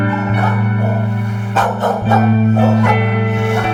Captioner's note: dogs barking